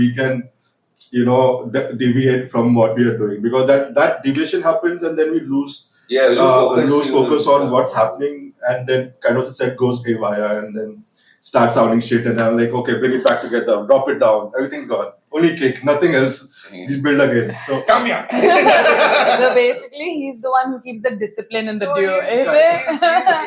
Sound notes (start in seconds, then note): 16.6 laughs; 21.8 laughs